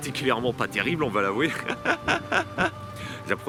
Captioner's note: laughs